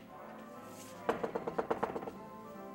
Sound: knocking on door

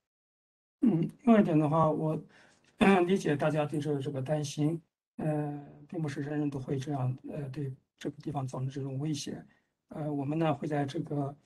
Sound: speaks in Mandarin

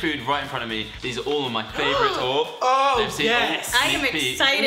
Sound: gasps

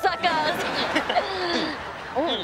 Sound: laughing

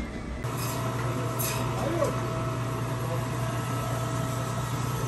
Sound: machine roaring

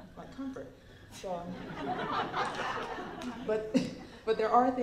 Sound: laughter

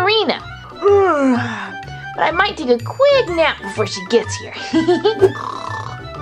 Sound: yawns; snoring

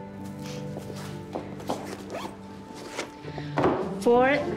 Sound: unzips purse

